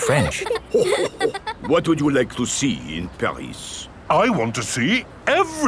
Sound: chuckles

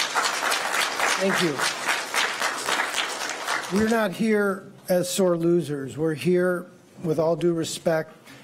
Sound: applause

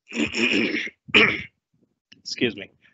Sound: clears throat

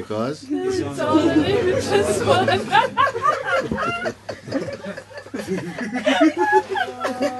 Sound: laughter

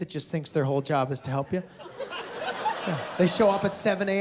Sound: laughter

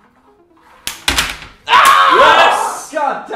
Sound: screams

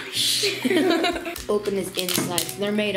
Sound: giggles

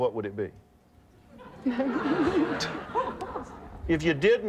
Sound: audience laughing

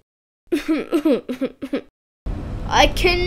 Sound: sob

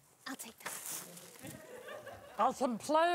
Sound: audience laughing

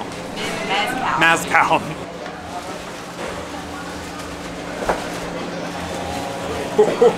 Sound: laughs

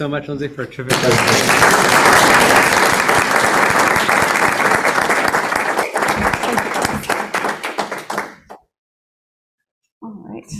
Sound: applause

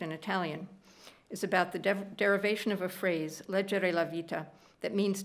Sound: speaking italian

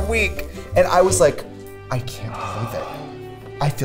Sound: sighs

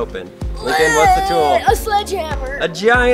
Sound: groans

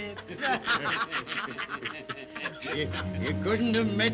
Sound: all laugh & cackle

